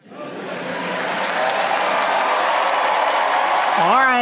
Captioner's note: audience clapping